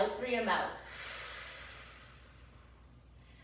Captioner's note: exhales deeply